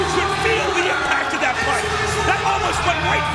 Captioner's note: bell ringing